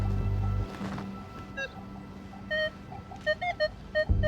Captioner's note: metal detector beeping